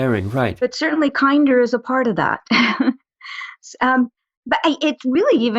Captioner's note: laughs